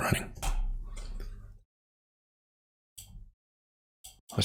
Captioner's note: blank Audio